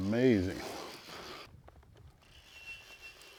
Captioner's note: reel whirring